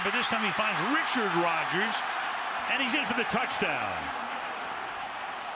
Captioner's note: pa announcement